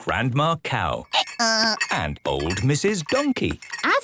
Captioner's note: braying